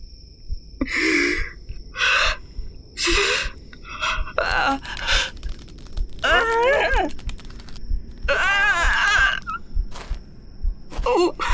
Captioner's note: heavy breathing